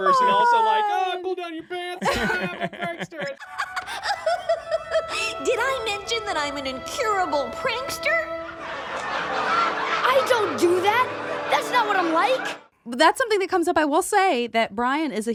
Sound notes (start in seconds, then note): 3.5 laughs theatrically; 8.5 audience laughs